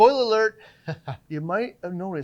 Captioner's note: chuckling